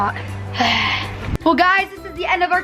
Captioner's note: sighs